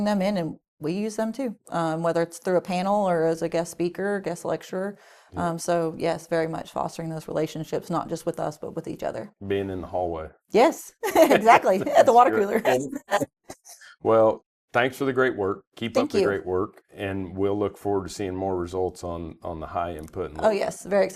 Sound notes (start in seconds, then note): 13.3 both laughing